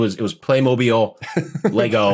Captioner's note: laughs